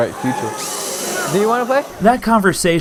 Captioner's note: robot gears screech